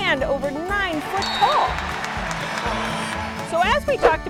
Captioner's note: crowd cheers